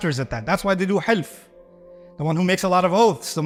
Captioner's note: Arabic